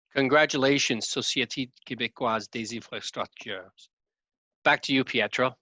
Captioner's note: speaking in foreign language